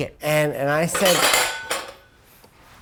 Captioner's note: hits glass